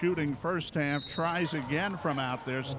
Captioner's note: referee whistling